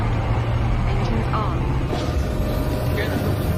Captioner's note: engine whirring